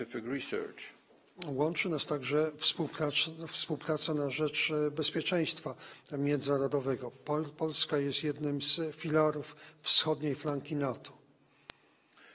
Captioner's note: speaking polish